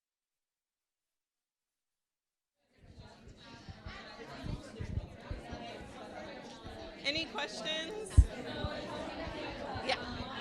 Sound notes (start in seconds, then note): 2.9 people talking